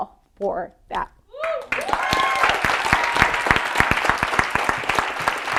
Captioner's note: audience applauding